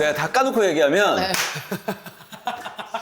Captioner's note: clap